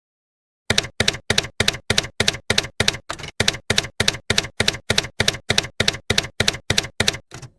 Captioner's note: typewriter keys clacking